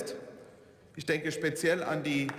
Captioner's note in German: Beifall